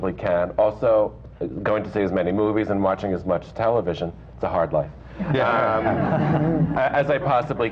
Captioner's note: laughter